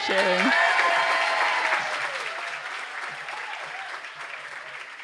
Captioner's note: audience applaud